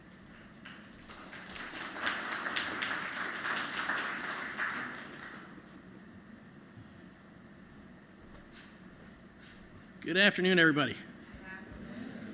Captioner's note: applause